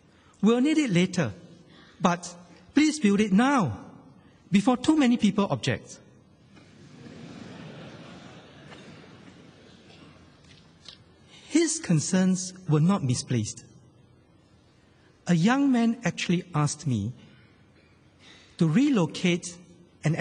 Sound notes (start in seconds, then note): 6.6 laughter